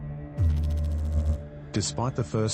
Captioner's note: electrical noise